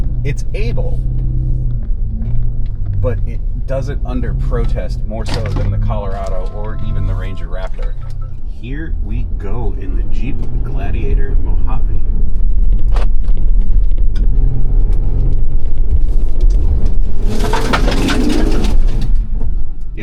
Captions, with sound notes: It's able but it does it under protest more so than the Colorado or even the Ranger Raptor. Here we go in the Jeep Gladiator Mojave. (engine whirring)